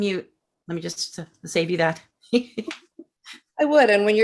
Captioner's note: chuckles